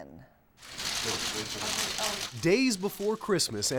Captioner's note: cameras clicking